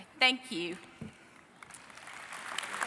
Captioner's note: applause